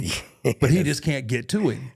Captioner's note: laughs